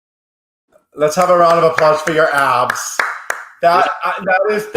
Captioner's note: clapping